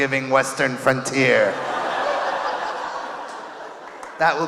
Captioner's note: audience laughing